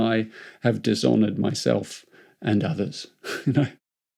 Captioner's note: chuckles